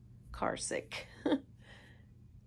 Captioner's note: chuckles